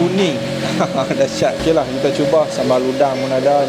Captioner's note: laugh